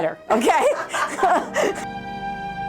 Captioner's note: laughter